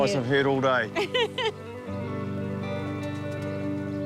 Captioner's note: laughs